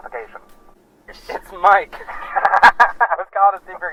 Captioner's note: laughs